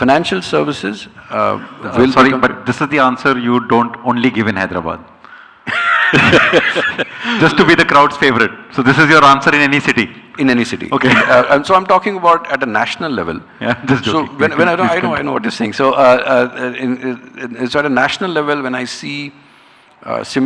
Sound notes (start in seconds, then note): 5.7 laughing; 11.0 chuckles; 13.6 chuckles